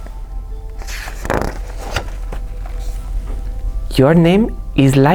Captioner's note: page turns